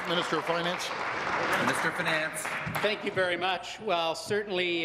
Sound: applause

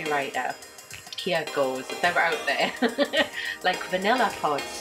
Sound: laughing

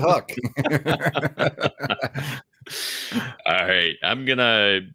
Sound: both laughing

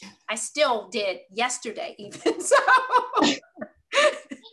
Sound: laugh

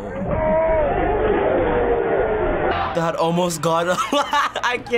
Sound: men speaking in foreign language

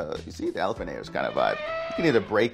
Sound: elephant trumpeting

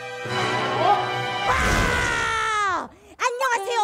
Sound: roars

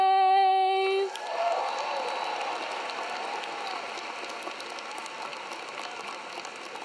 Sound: audience clapping; audience cheering

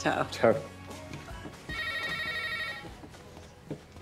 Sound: phone rings

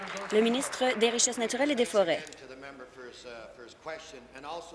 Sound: applause

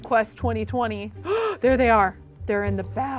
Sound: gasps

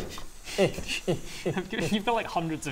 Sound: grunting Scrooge noises

